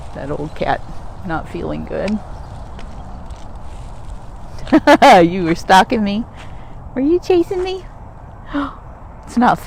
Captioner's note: laughs